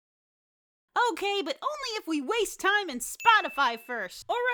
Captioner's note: yet another gratuitous product placement ding